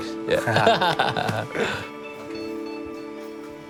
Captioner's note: laughter